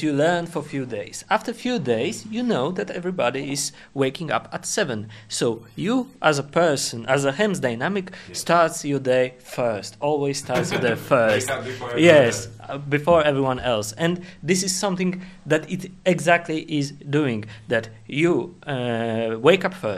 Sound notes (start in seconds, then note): 10.4 laughs